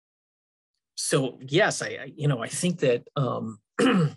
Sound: clears throat

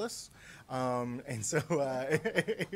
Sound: laughter

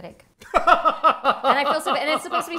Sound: laughing

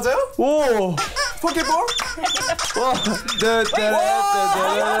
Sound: squeaking; humming

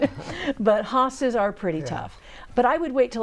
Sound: laughing

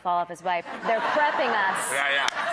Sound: audience laughing

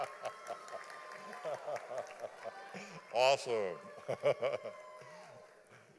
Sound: audience applauding; laughing

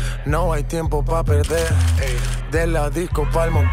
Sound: cameras clicking; fans shouting

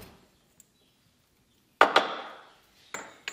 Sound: knocking

